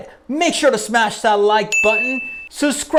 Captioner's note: bell rings